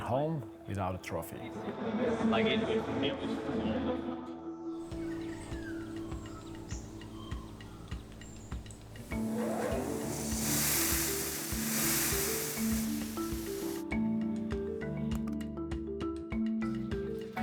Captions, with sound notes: We went home without a trophy. (birds chirping) (soft music)